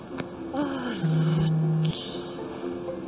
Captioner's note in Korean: 진동